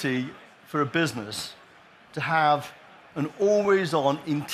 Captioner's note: applause